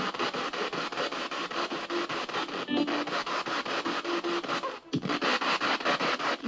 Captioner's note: radio noise from the spirit box